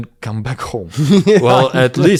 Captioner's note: laughs